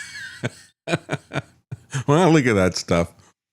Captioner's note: laughs